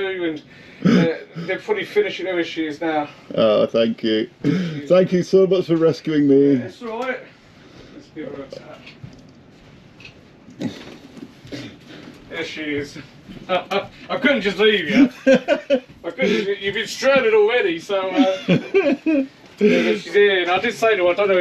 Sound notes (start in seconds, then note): 14.7 laughs